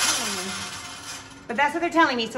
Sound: metal rattling

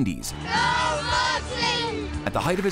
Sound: chanting

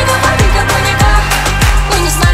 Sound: clap clap

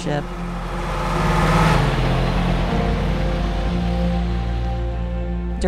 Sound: truck engine revving

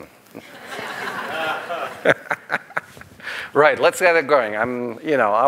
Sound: laughter

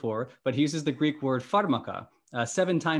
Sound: speaking greek

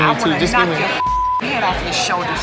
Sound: beep

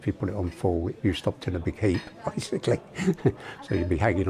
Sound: chuckles

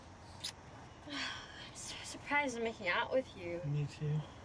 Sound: sighs

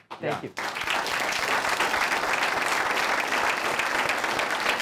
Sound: applause

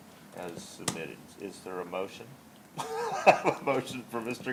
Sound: laughs

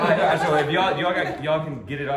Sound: laughing

